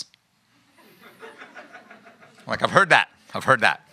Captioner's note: laughing